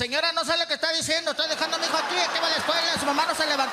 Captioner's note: speaking Spanish; laughter